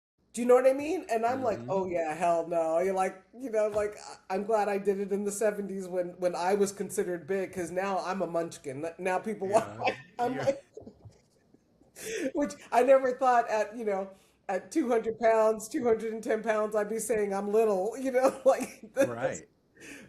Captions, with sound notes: And I'm like, oh yeah, hell no. You're like, you know, like, I'm glad I did it in the 70s when I was considered big, because now I'm a munchkin. Now people want, I'm like. (Laughing) Which I never thought at, you know, at 200 pounds, 210 pounds, I'd be saying I'm little, you know, like. Right. But yeah.